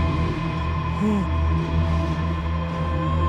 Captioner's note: low pained groan